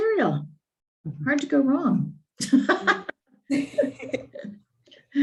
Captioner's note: laughing